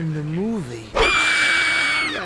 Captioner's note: couple screaming